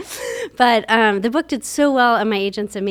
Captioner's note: laughs